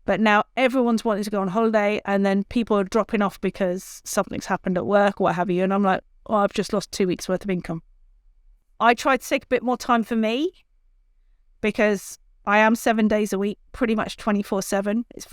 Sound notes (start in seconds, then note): none